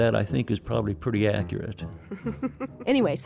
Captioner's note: laughs